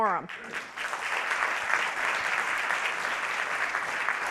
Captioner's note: audience clapping